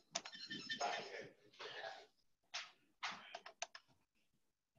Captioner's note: distant chattering